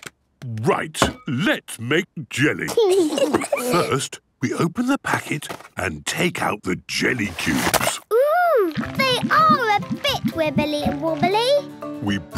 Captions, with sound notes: - Right! Let's make jelly! (giggles) First, we open the packet and take out the jelly cubes. - Ooh, they are a bit wibbly and wobbly.